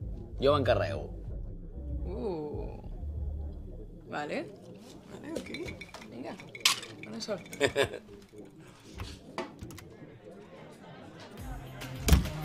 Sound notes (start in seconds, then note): 7.3 laughs; 10.6 door closing; 11.8 electronic music